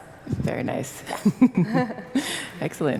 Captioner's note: laugh